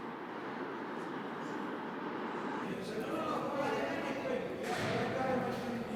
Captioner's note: subway rattling; indistinct chatter